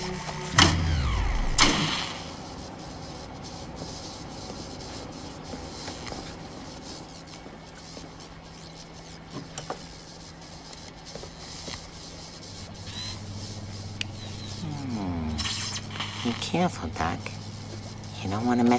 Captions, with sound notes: [ Power surges ] Hmm. Be careful, doc.